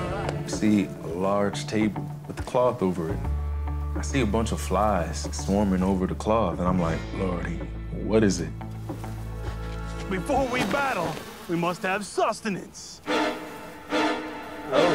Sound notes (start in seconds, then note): 0.0 cheering; 8.6 flies buzzing; 13.0 tense music